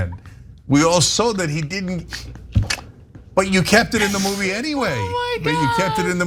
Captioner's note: laugh